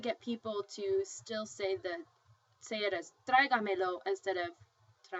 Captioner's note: spanish